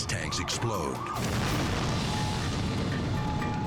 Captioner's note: gas tanks exploding; alarms beeping